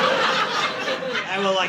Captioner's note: audience laughing